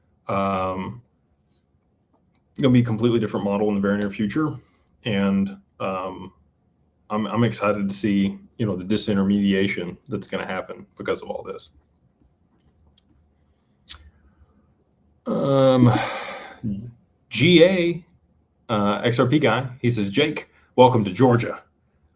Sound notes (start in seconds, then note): 15.7 sighs and gasps